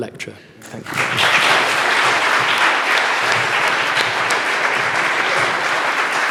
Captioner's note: audience applauds